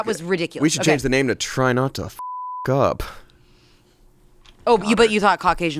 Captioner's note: beep